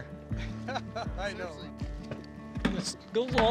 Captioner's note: all chuckling